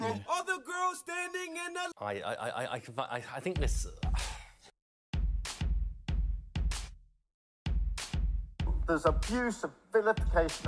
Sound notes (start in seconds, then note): 4.1 sighs; 5.0 drumbeat plays